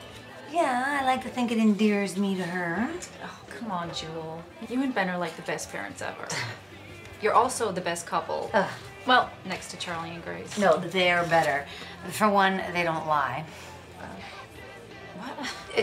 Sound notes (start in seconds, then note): 6.0 Julie scoffs; 8.3 Julie grunts